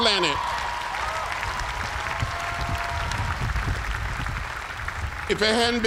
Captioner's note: cheers and applause